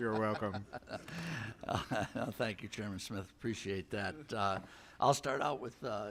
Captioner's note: laughter